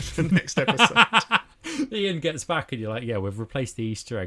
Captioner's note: laughs